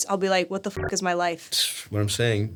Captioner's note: beeps